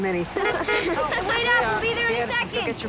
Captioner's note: horn honks